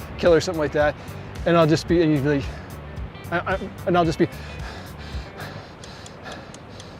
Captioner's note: heavy breathing